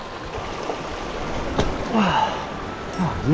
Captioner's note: body thudding; grunting